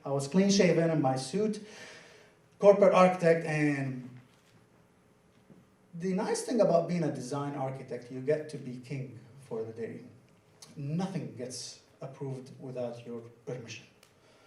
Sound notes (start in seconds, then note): none